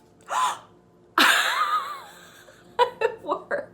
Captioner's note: sighs; laughs loudly